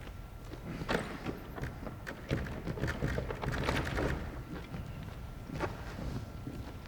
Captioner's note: jostles doorknob